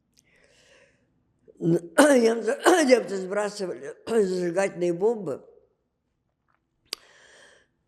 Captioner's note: coughing